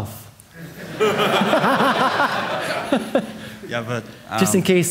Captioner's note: audience laughing